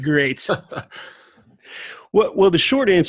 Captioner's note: laughs